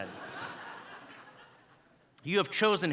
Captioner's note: audience laughing